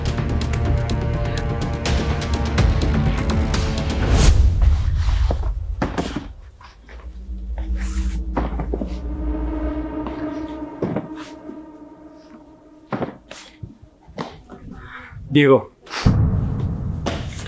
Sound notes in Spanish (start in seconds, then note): 15.8 resoplido